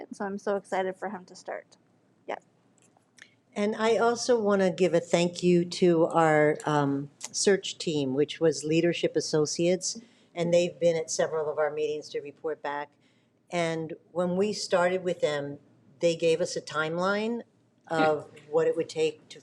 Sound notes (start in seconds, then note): none